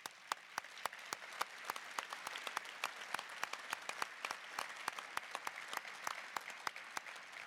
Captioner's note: applause